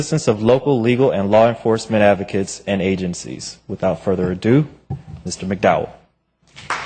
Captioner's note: applause